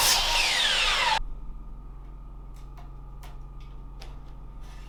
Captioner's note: drilling